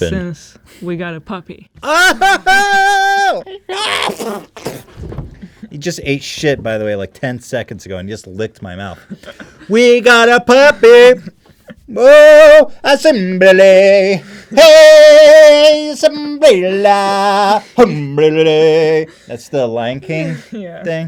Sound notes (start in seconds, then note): 3.8 sneeze/Spit/Scream/Cough